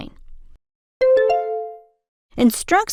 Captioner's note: bell ding